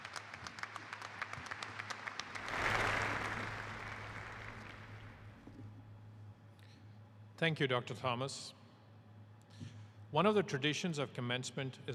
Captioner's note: applause